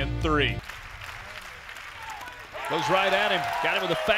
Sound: clapping

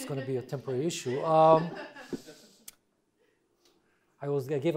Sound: audience laughing

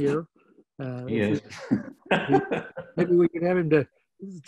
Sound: laughing

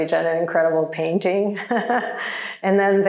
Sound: chuckles

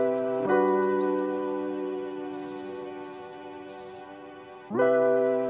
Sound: sounds of birds in the distance; warm, upbeat, Introduction music plays

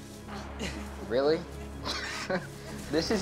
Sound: scoffs

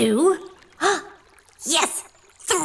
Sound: fly gasps

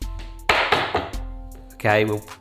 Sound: bangs on counter

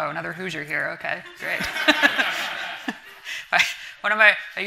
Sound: everyone laughing

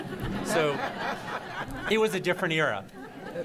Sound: laughter

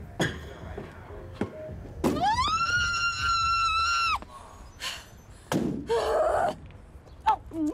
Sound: screaming

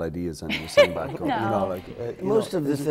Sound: laughter

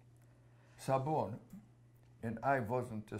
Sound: non-english

